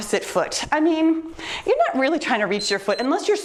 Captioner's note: timer beeps